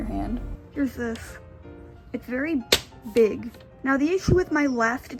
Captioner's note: smack